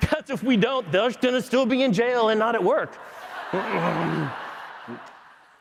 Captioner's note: applause